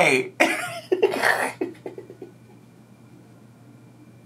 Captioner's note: laughs